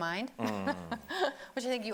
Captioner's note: laughing